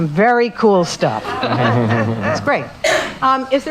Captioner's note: laugh